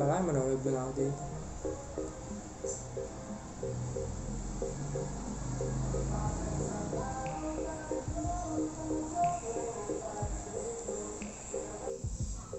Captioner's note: car passing